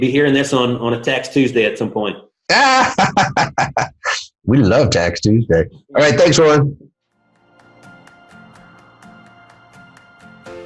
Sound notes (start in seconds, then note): 2.5 laughs; 7.2 inspiring music